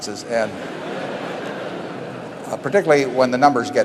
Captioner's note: laughter